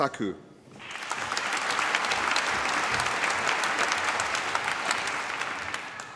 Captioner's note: applause